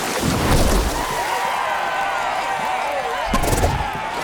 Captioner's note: cheering